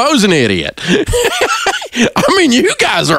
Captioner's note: chuckle